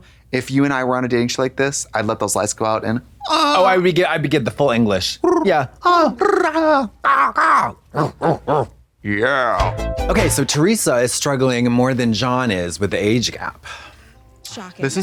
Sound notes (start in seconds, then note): 7.1 Katya barks; 9.6 synth bop